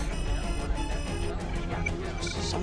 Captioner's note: alarm blaring